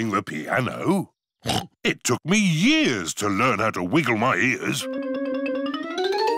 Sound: snorts

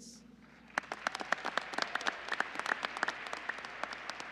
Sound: applause

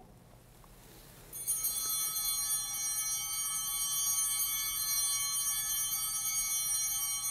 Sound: bell ringing

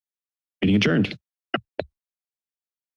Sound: tapping sound; silence

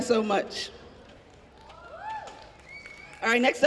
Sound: audience cheering

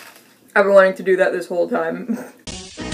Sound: crunch; crunching; funky music

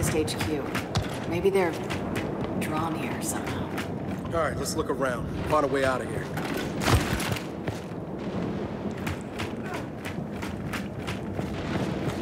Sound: wind blowing

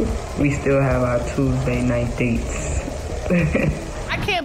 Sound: chuckles

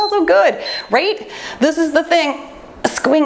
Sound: timer beeps

